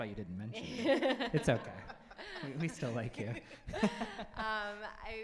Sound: laughs

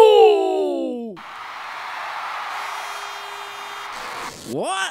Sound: crowd cheering

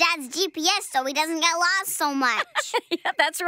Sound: chuckles

